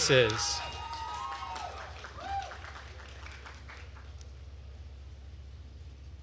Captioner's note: attendees cheering and applauding